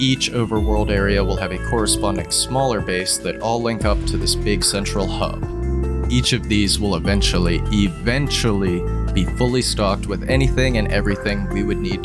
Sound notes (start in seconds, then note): none